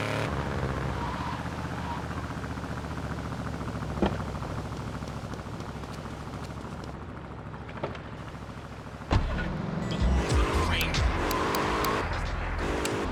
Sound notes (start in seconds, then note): 5.9 engine revving